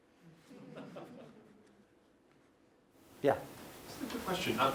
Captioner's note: laugh